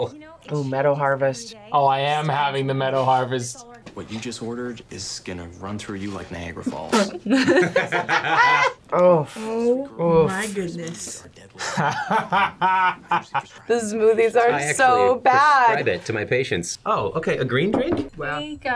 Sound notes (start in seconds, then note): 6.6 both laugh; 11.5 laughs